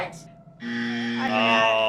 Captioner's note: buzzer